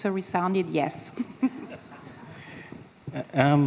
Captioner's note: chuckles